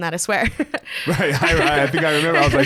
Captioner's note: both laughs